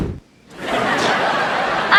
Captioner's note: laughing